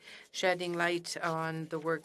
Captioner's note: speaking in French